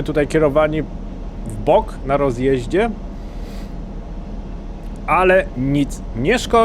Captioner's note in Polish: parsknięcie